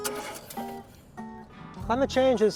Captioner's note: light music; engine sputtering